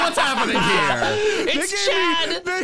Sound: laughing

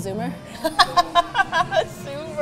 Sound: both laughing

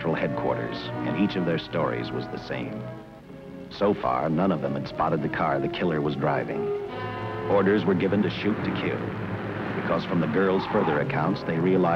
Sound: sirens wailing

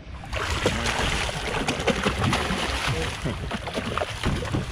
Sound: fish splashing; chuckling

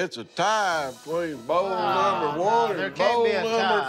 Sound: all groaning

